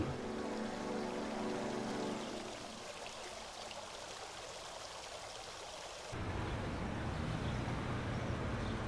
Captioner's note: nature sounds